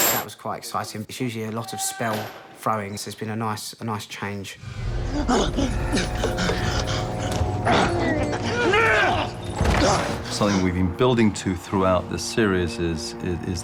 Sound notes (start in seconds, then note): 5.8 harry panting; 7.6 both grunting